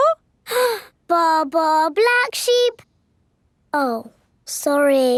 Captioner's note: inhales